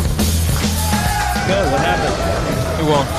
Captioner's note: cheering